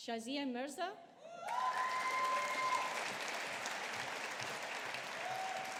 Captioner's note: audience applauding